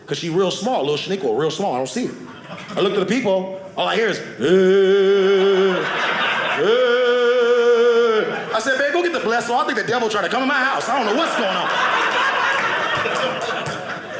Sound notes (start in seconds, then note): 4.3 crying; 11.8 audience laughing